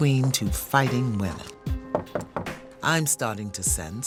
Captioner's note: knock on door